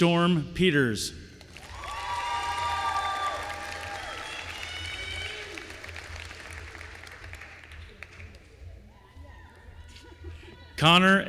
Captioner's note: applause